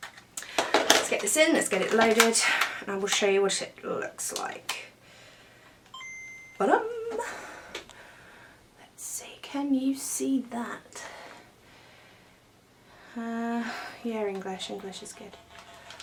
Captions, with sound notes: Lets get this in, lets get it loaded, and il show you what it looks like [Nintendo start up sound] BADING! Lets see can you see that? Er yeah English is good